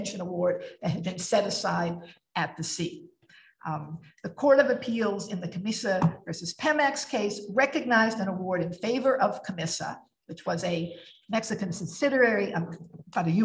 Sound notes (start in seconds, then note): none